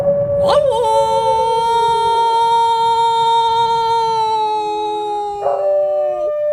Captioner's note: Sound of Wolf barking